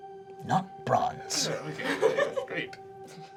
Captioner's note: laughing